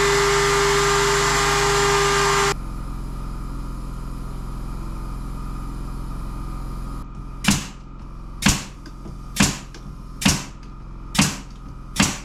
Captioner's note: motor whirring